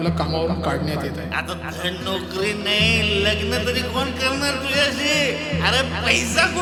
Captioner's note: father slurring